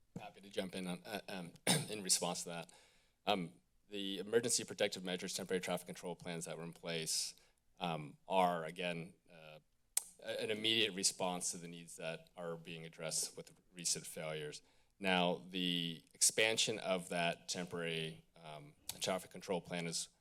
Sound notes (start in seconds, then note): 10.0 clicks tongue